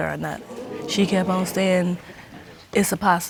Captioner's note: audience exclaims